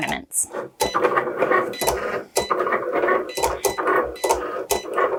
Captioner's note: chugging noise